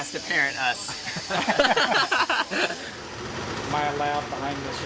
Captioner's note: laughing